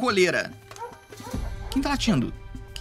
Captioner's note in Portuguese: latidos